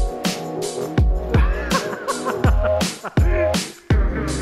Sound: laughing

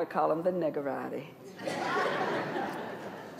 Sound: laughter

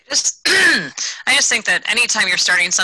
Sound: clears throat

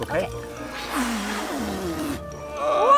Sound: blowing air

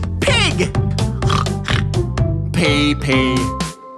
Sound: snorting

